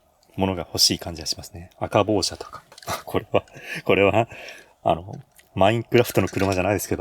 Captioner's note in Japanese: 笑い